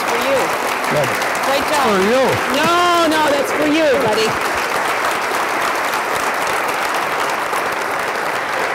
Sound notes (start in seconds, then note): 4.7 applause